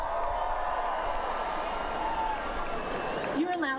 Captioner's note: cheering